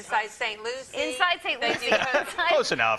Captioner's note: laughs